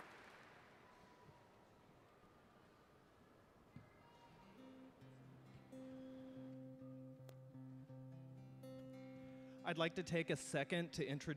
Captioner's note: applause